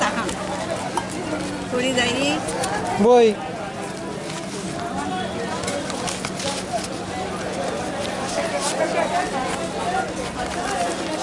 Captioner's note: lady laughs